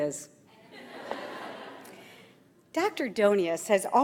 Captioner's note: audience laughs